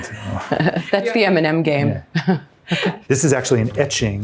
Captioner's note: chuckling